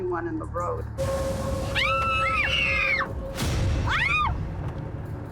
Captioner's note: screaming